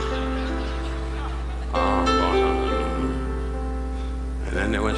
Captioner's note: audience laughing; Don muttering